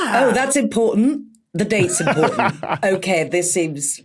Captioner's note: laughs